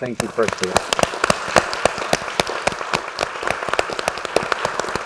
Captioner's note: applause